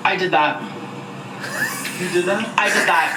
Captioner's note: laughing